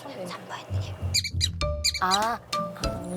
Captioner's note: whisper whisper